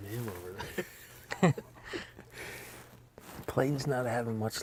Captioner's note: laughter